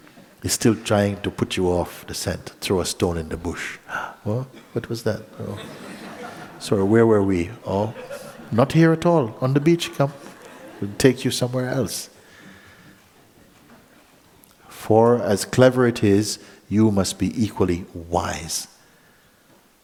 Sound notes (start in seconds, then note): 5.4 laughter